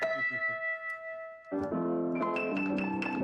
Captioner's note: chuckling; piano music